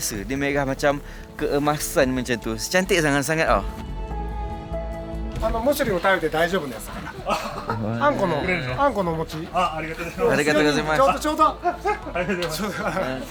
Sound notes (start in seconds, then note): 5.3 speaking Japanese; 9.6 laugh; 11.1 speaking Japanese